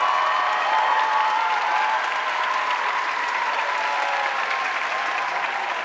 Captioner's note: audience cheering and applauding